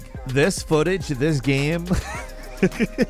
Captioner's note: laughs